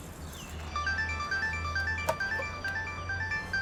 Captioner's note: mobile ringing